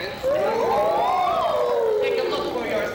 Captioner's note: all ooh